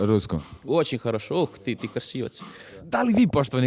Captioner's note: speaking Russian